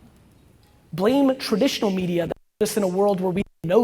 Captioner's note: audio distorts